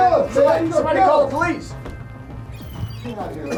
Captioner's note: voiceover